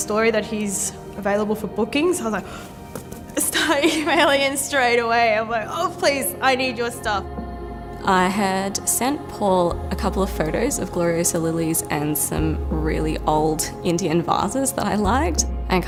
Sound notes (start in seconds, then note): 3.4 laughing